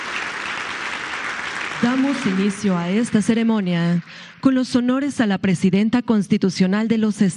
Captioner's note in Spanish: aplausos